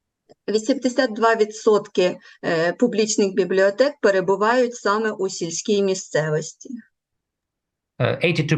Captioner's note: foreign Language